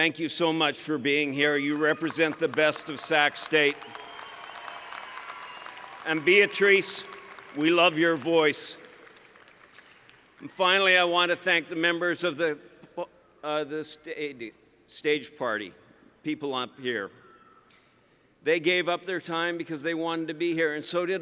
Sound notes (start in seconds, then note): 3.8 applause